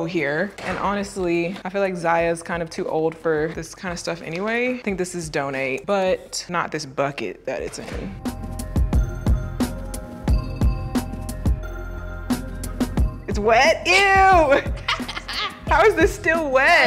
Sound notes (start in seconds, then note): 8.1 tranquil ambient music; 14.3 laughing